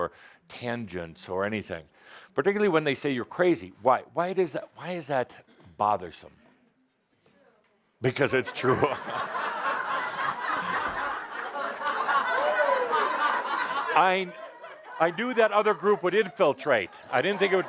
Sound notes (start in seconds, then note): 11.7 much laughter